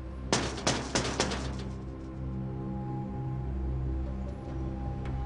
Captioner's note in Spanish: Golpes en la ventana; De nuevo golpea la ventana